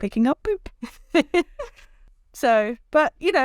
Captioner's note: chuckles